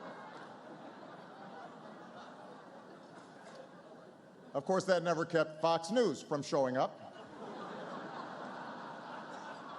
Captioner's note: laughter